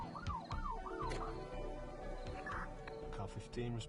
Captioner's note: siren powering down